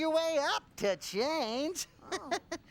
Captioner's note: chuckles